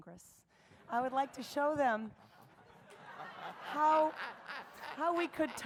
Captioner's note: audience and Dr. West laugh